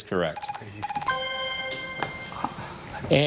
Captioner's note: chime resonating